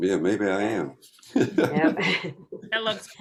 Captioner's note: laughter